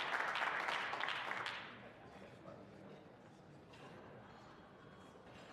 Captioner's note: some applause